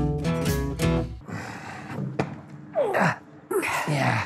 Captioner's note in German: Angestrengtes Stöhnen